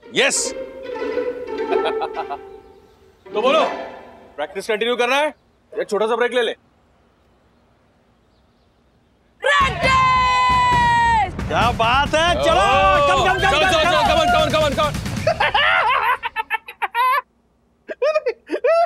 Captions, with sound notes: Yes. So, shall we continue with the practice? Or shall we take a small break? Break time! Wow! Let's go! Come on! [laughs]